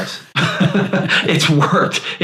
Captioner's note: laughs